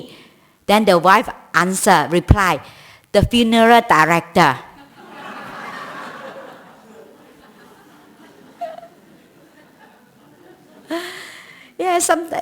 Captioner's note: laugher